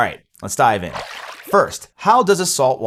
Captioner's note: water splashing